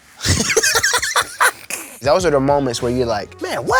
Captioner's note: laughs